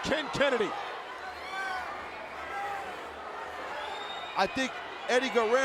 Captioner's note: crowd vocalizing